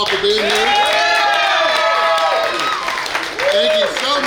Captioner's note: clapping & Cheering